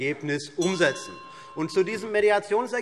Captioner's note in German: Anhaltende Unruhe - Glockenzeichen